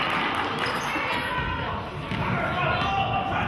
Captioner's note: clapping